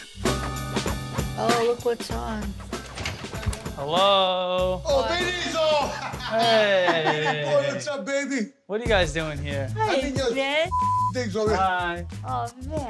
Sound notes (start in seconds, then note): 0.0 upbeat music; 5.7 laughs; 10.7 beep